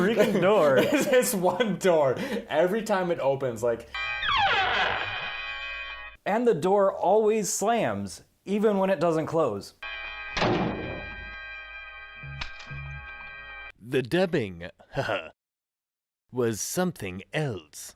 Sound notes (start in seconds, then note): 3.9 squeeeeek